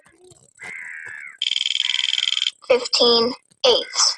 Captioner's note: wheel clicking